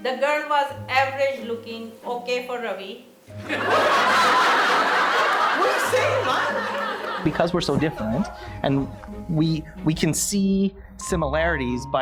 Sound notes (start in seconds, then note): 3.4 audience laughing